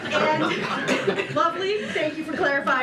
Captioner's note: laughter